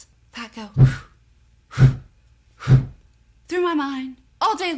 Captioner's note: air whooshing; whooshing